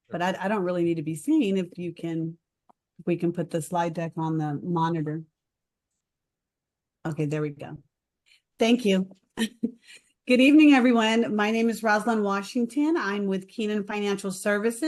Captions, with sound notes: but I, I don't really need to be seen if you can, we can put the slide deck on the monitor. Okay there we go. Thank you (chuckle). Good evening, everyone. My name is Roslyn Washington I'm with Keenan Financial Services